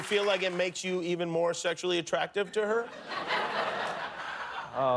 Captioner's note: cheers and applause